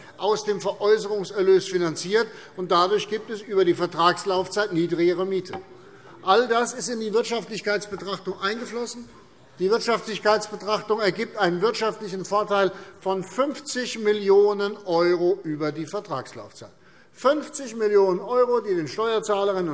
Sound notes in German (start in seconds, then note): none